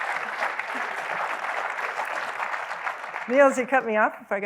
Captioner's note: applause; laughs